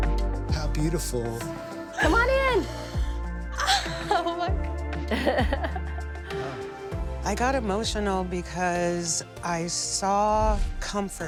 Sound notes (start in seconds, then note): 3.5 gasps; 5.0 laughs